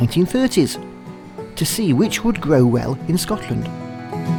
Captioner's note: sound of boat engine